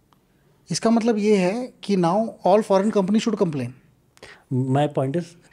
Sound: speaks in Hindi

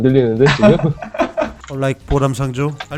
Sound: laughter

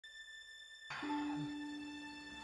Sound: sighs

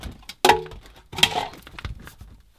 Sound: clattering

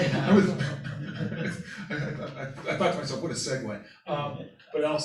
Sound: laughter

